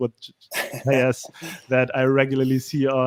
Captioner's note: laughing